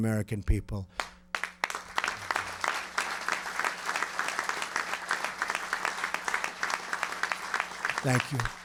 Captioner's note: applause